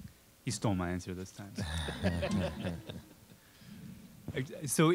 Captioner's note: audience laughing